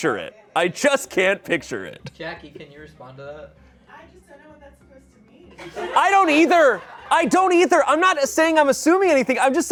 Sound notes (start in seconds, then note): 5.6 audience laughing